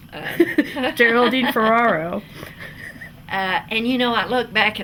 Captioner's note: laughs